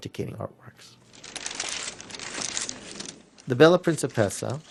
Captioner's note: paper rustles